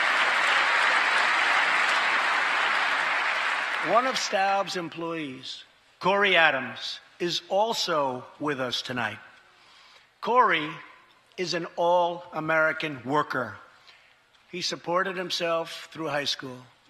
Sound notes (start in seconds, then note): 4.1 applause